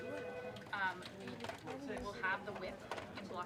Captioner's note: indistinct chatter